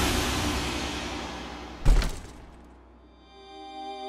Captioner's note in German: Tür fällt ins Schloss